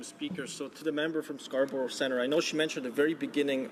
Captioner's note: speaking in French